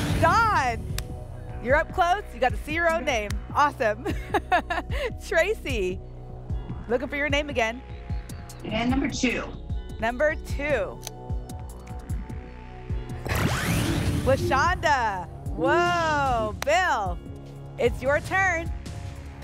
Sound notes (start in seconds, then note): 3.9 laughs